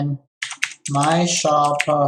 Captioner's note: keyboard clicking